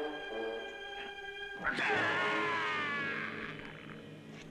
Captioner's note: groaning